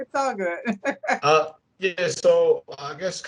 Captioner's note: laughs